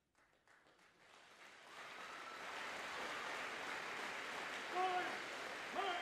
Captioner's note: audience cheering and applauding